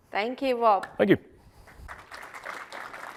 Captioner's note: applause